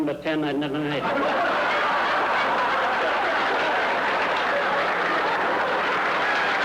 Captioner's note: audience laughs